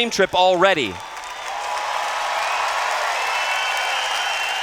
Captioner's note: cheers